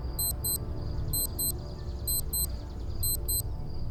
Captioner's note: watch beeping